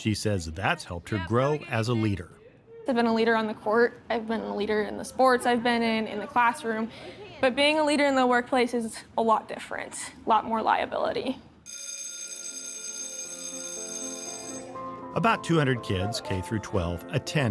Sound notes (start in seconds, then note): 11.7 bell ringing; 13.4 gentle music